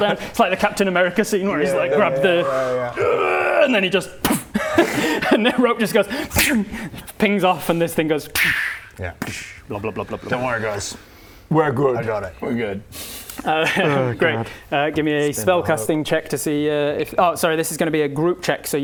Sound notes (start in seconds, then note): 4.2 poof!; 8.5 psssch; 9.5 blub blub blub blub